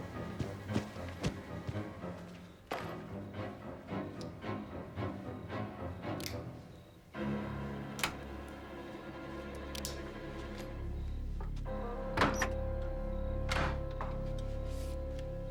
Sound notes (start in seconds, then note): 6.5 knife clicks; 8.4 lock clinks; 11.4 doors clicking